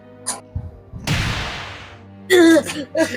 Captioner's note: woosh